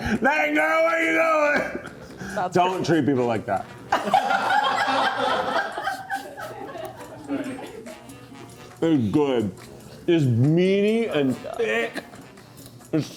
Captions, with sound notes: Dang, girl, where you going? Don't treat people like that. (crew laughs) It's good. It's meaty and thick.